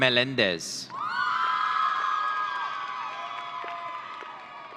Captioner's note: audience cheering